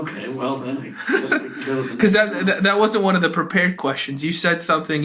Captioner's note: laughs